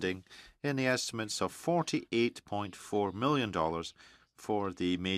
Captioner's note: speaking French